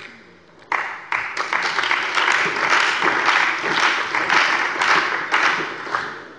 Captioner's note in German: Beifall bei der CDU und dem BÜNDNIS 90/DIE GRÜNEN